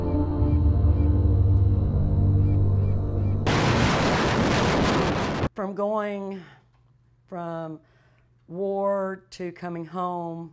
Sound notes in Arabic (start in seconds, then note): 3.2 هبوب رياح قوية